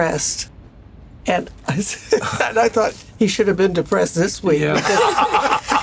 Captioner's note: chuckles; laughter